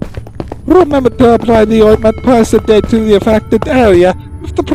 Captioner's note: accented zoltan